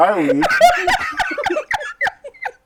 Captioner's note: laughter